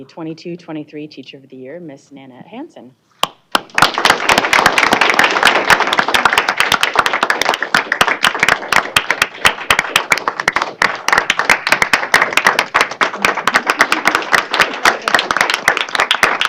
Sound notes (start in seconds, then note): 3.9 applause